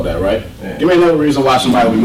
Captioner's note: voiceover